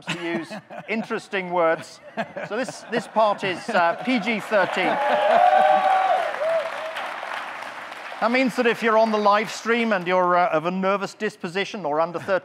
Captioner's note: audience clapping, cheering